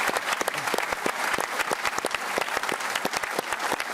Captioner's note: applause